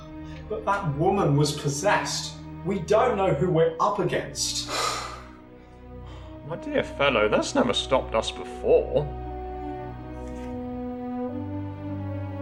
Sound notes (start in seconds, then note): 4.6 sighing